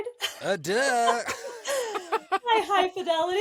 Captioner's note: laughter